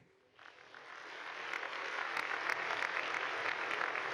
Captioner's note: audience applauding